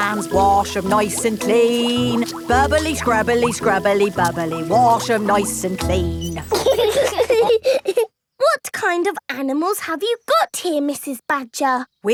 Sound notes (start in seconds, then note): 0.0 sings to the tune; 6.6 laughing